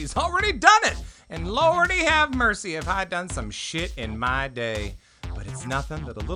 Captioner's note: beep